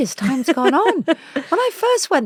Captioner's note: laughs